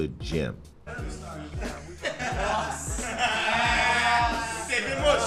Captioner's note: indistinct chatter; laughter